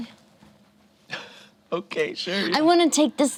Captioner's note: laughs